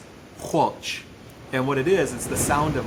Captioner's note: speaking in Lushootseed language